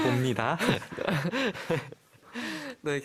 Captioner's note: tertawa